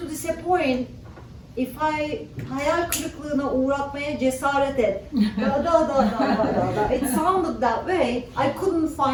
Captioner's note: speaking turkish